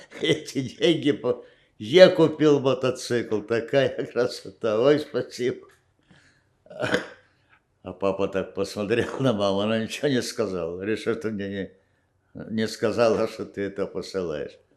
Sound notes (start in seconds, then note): 6.7 coughing